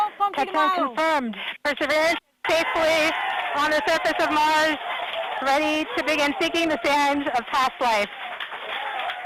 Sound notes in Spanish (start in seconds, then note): 2.5 Aplausos